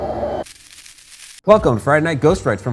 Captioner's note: static hissing